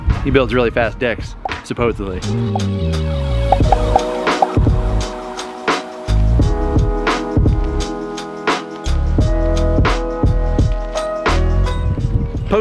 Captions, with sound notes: He builds really fast decks, supposedly. (repetitive popping) (mellow hip-hop music)